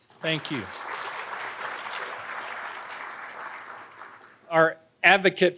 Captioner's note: audience applauding